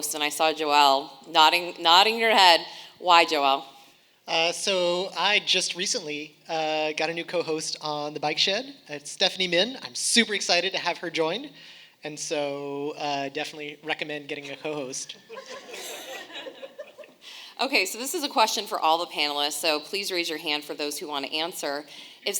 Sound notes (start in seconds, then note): 15.1 audience laughing